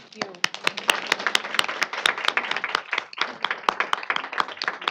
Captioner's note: applause